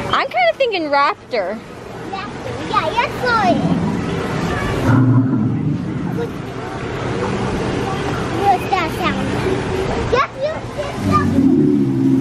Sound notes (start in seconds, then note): 4.8 dinosaur roars